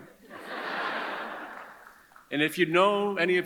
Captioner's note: audience chuckles